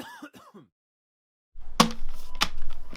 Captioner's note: coughing